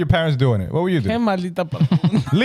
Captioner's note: speaking In Foreign Language